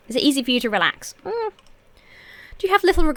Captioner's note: hums uncertainly